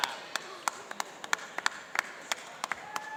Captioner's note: applauding